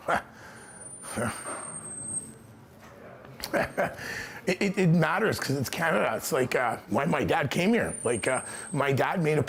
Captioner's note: chuckling